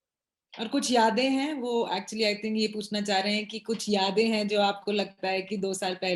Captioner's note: speaks foreign language